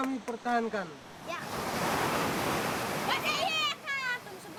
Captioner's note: waves splashing